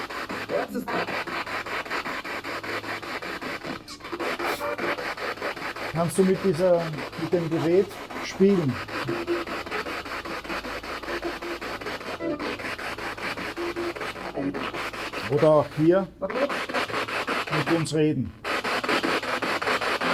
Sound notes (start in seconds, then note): 8.2 radio noise from the spirit box